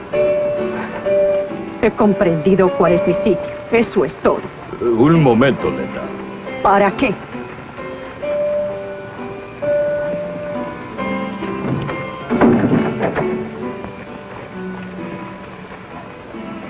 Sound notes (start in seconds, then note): 11.4 door opening